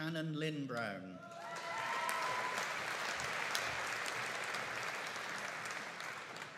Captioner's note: audience cheering and applauding